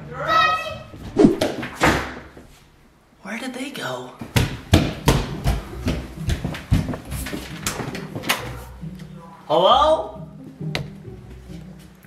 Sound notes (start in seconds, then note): 1.7 door slams; 4.6 shoes slamming